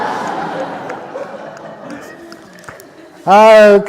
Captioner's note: laughter